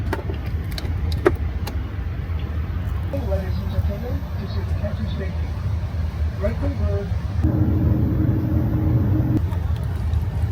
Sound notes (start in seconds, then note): 7.4 engines at full blast